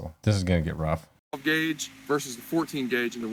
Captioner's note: none